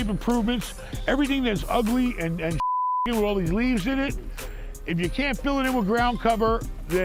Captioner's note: beep